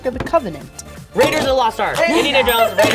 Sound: bell dings

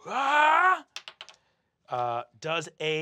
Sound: shouting; die clacks

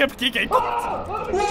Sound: blood-curdling scream

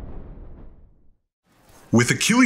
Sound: men yelling

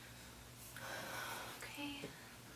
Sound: sighs

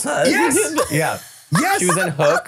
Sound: laughing

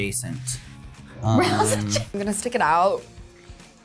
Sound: laughs

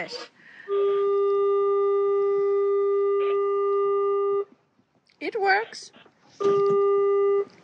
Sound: long biiiiip sound; more biiiip but shorter

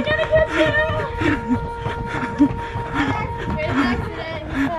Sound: heavy breathing

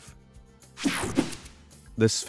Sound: screen whooshing

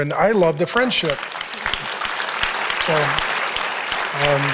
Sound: applause

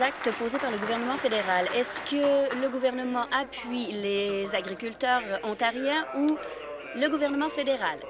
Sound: applause

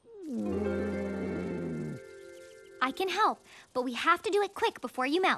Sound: whimpering

